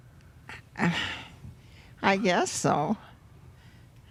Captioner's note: sighs